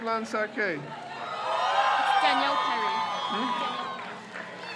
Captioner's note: crowd cheers